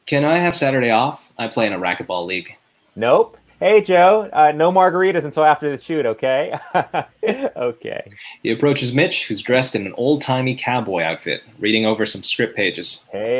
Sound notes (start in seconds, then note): 6.4 laughs